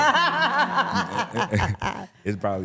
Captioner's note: laughing